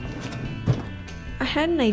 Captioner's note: drawer thuds